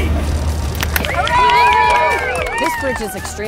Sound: crowd Cheers

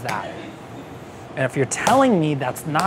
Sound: slaps

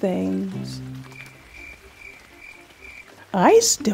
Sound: crickets

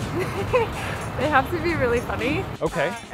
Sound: laughs

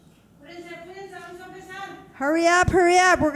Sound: speaking in foreign language

